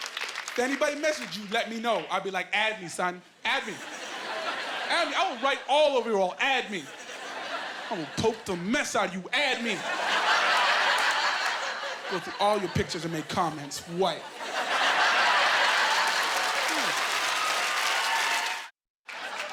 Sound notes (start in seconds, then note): 9.5 laughing; 14.9 laughing and applause